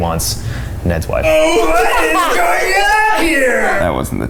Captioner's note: laughing